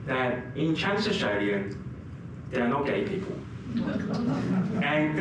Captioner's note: laugher